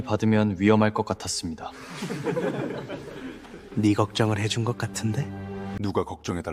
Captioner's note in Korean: 웃음